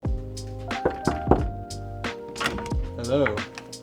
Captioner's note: hand knocking